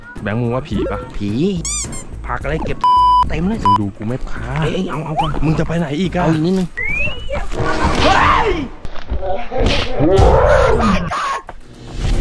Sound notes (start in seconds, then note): 7.5 mysterious melody playing; 7.9 screams